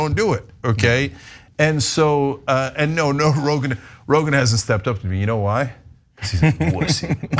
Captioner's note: laugh